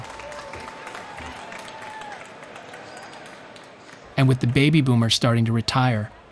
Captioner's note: cheering